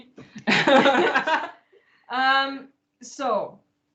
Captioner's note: laughter